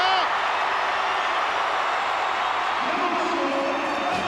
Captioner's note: crowd roaring